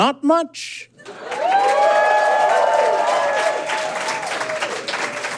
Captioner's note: audience cheers and applauds